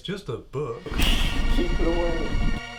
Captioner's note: David hisses